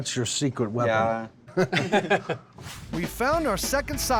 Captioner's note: laughter